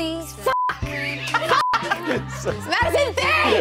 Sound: beep; laughter

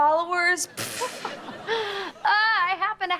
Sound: giggling

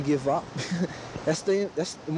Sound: man chuckles

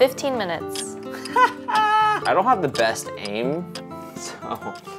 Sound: laughing

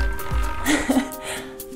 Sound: laughs

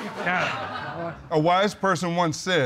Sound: audience laughs; sighs

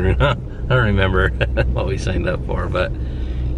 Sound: laughs

